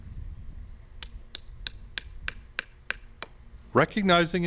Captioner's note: hammer tapping